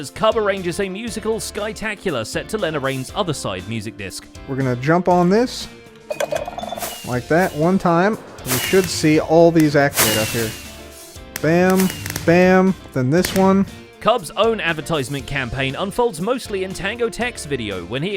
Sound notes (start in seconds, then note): 5.9 sculk sensors trigger; 11.4 fireworks exploding